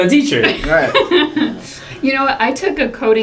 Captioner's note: laugh